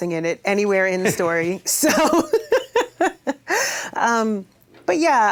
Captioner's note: laughs